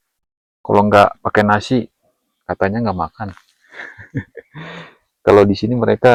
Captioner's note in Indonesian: tertawa